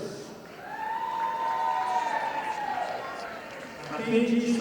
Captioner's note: audience applauding